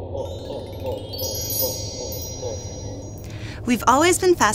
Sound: magic spell sound effect

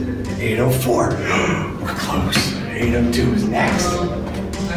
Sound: gasp

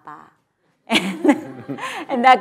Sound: laughter

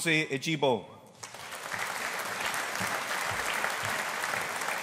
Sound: audience applauding

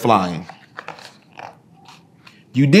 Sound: pages rustling

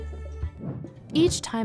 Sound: woosh

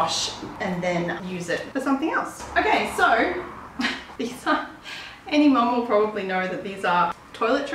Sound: laughs

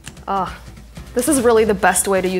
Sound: moans

